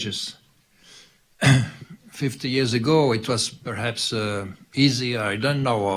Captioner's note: clears throat